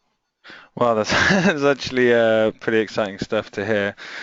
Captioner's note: laughs